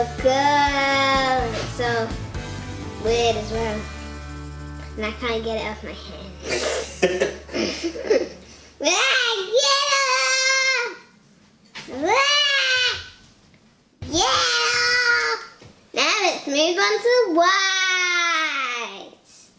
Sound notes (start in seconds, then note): 6.4 giggles; 6.4 laughs; 9.1 shouting